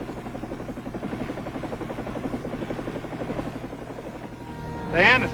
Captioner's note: helicopter engine roaring